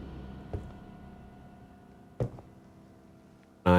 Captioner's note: footsteps approaching